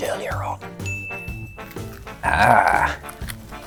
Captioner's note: ping